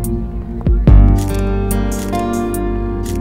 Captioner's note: Camera clicking